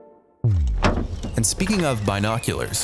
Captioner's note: energetic upbeat music fades; transition booms; birds chirping